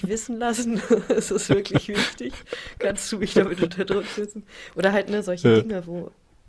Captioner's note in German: gelächter